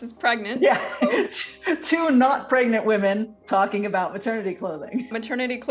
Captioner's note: laughs